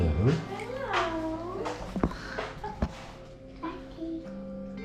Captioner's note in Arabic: يضحك